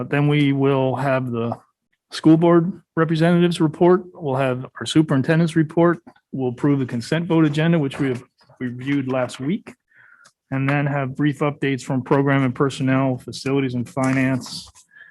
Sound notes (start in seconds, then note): none